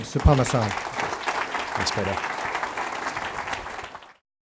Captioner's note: applause